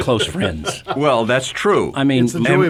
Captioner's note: all laugh